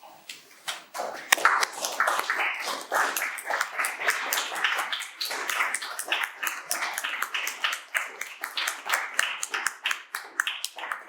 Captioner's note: audience applauding